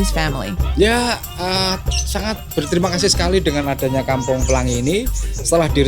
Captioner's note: speaking in foreign language